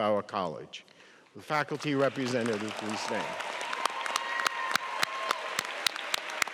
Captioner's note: applause and cheering